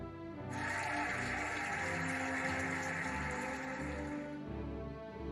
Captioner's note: cheering and applauding